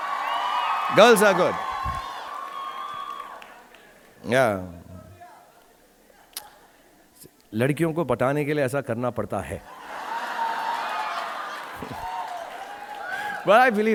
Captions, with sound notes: (audience cheering) Girls are good. (speaks Hindi)